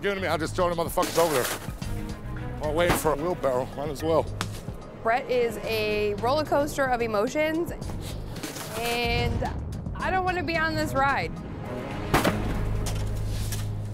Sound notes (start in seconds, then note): 12.0 ice slams